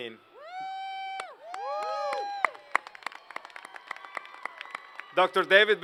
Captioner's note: applause